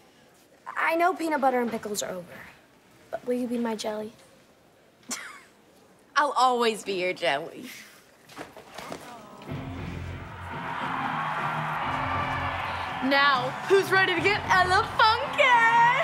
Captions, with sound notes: I-I know peanut butter and pickles are over, but will you be my jelly? [chuckles] I'll always be your jelly. [audience cheering] Now, who's ready to get ele-funky?